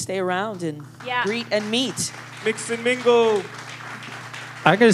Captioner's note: applause